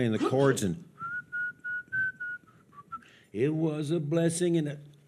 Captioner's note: whistles